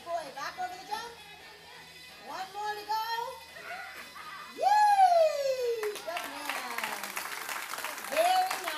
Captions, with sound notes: Good boy, back over the jump. One more to go. (cheering and clapping) Good man, very nice.